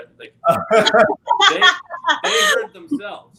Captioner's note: laughing